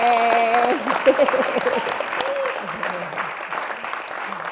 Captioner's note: chuckles